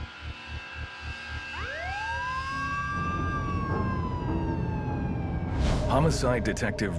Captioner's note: sirens